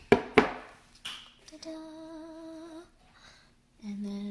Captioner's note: +singsong+